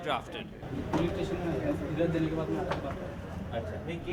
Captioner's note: speaking hindi